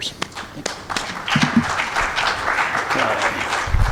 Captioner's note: crowd clapping